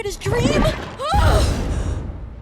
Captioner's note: shouts in frustration